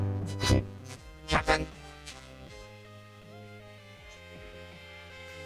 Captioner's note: scoffs